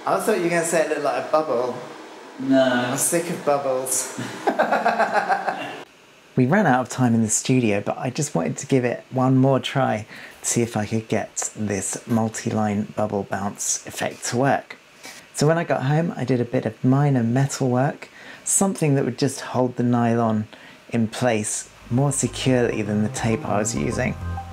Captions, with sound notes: I thought you were gonna say it looked like a bubble - No - I'm sick of bubbles [Laughter] We ran out of time in the studio but I just wanted to give it one more try to see if I could get this multi-line bubble bounce effect to work. So when i got home i did a bit of minor metal work - something that would just hold the nylon in place more securely than the tape i was using.